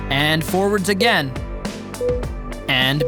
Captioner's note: timer beeping